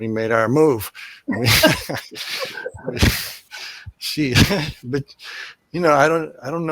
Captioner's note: laughter